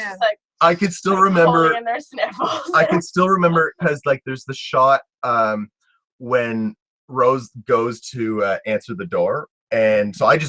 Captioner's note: talking